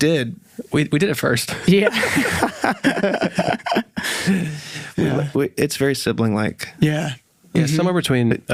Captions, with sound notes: - I mean, yeah, we did. - Yeah. We did at first. - Yeah. [everyone laughing] - It's very sibling-like. - Yeah.